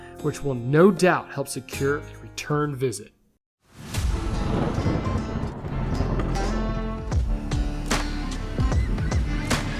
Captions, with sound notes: which will no doubt help secure a return visit. (thunder rumbles) (upbeat music)